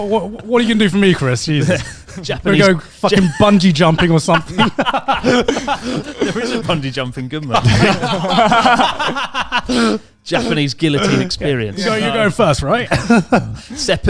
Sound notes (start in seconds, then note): 7.4 laughs loudly